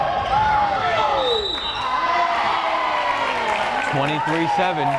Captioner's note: whistle blares